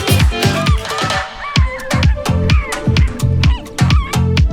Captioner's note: upbeat feel-good music continues; monkeys squeaking loudly; upbeat feel-good music continues